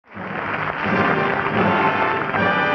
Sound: audience applauding

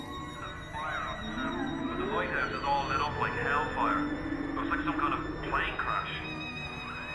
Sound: radio static

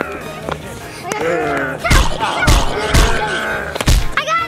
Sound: groans

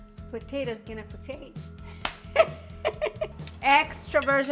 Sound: laughs

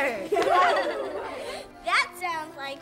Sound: everyone laughs

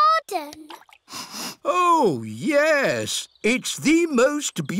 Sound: sniffs

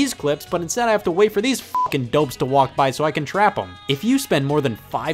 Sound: beep

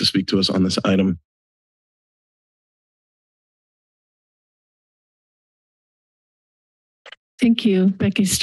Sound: silence

